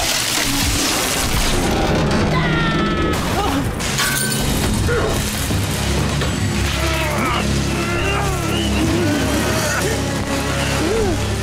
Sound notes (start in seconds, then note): 2.2 screaming, thudding; 4.3 grunting; 6.8 grunting